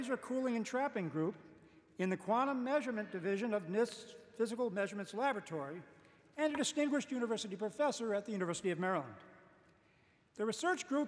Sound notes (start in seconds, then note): none